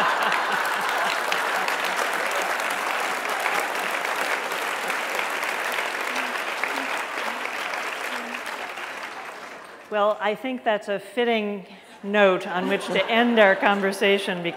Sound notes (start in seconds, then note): 2.8 laughter; 4.6 applause